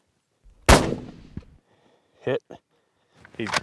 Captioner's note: gun bangs